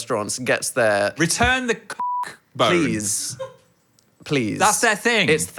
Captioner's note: beep